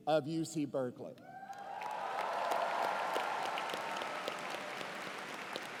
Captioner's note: cheers and applause